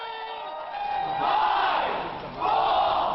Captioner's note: crowd